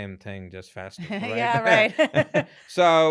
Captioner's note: laughs